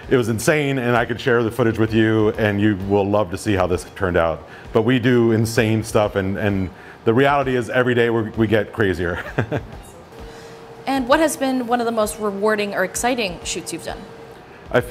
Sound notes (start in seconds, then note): 9.2 laughs